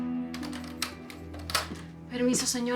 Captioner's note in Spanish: Sonido al abrir la puerta